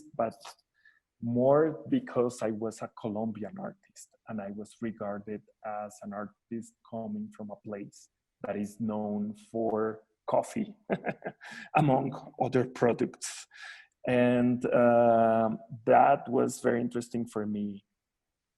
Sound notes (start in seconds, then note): 10.8 giggles